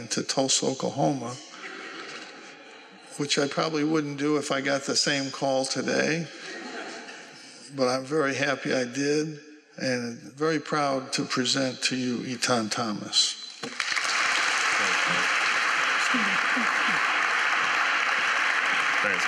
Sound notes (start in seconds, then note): 1.5 laughter; 6.2 laughter; 13.6 applause